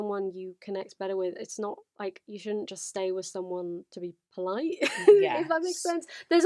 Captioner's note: laughs